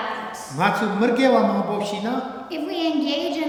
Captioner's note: speaking tibetan